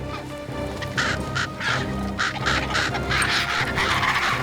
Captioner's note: frenzied cawing